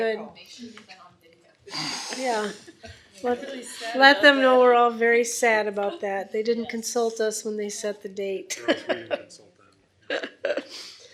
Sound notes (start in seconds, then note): 8.6 laughs